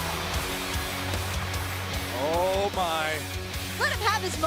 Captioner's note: cheers and applause